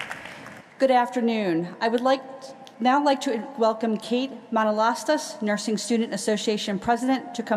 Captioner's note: applause